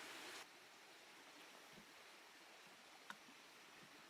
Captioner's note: creek flowing